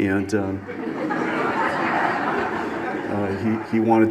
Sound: audience laughs

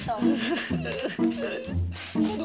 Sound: crying

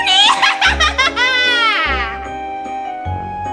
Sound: laughs

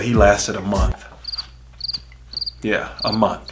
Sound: crickets chirping

